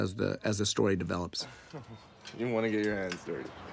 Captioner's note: chuckles